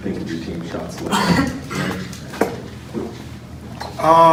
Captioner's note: coughs